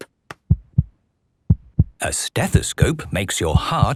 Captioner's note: heart beating